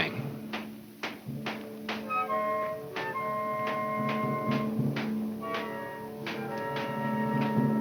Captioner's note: pensive orchestra music; distant banging